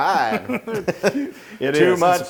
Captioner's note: laugh